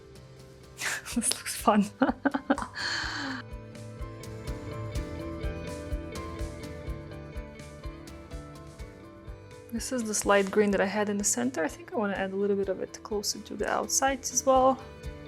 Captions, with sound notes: (chuckles) This looks fun. (chuckles) (bright music) This is this light green that I had in the center. I think I wanna add a little bit of it closer to the outsides as well.